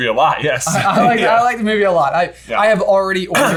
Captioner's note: both laughing